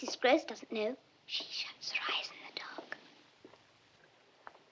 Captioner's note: whispers